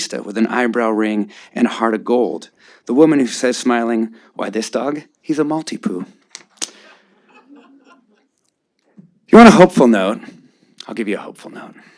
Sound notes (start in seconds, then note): 7.1 audience laughing